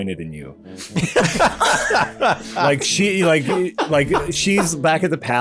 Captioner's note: collective laughter